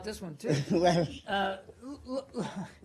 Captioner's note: laughter